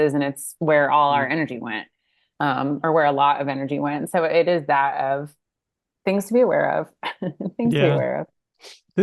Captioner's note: laughs